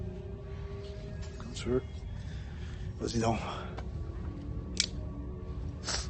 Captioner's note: guy speaking foreign language